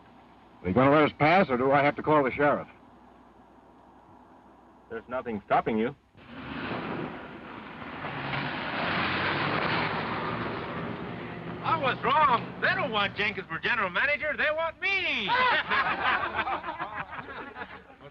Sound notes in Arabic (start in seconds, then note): 6.2 محرك السيارة يدور; 15.2 الجميع يضحكون